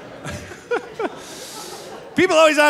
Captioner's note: laughing